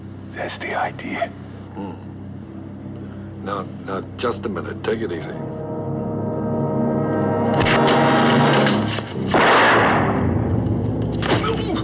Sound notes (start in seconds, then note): 7.0 tense music; 9.2 gunshot